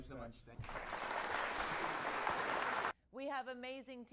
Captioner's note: audience applauding